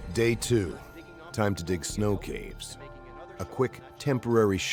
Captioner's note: voiceover